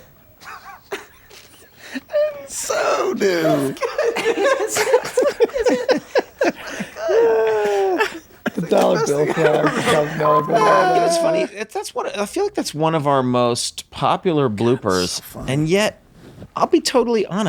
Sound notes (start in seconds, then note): 2.5 group laughing; 5.8 group laughing